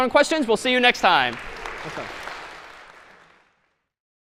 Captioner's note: applause